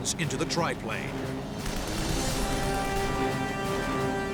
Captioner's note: weapons firing, music playing